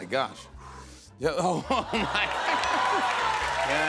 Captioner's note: laughter, cheers, applause